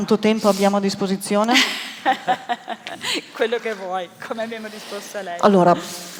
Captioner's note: laughter